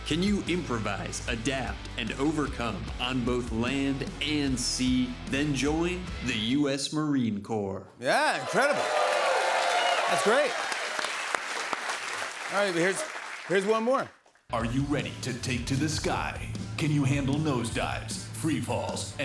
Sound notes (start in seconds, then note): 8.3 cheers and applause